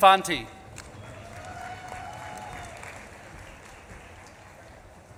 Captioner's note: audience claps and cheers